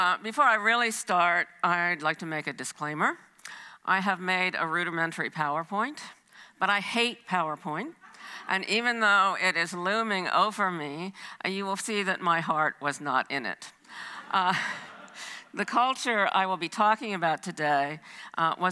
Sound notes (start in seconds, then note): 14.5 audience laughs; 14.5 laughs